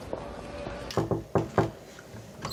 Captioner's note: knocking